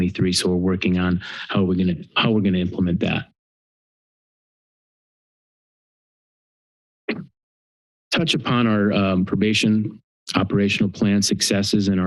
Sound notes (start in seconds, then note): 3.6 pause